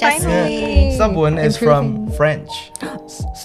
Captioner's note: speaking in foreign language